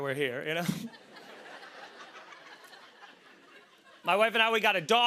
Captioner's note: laughter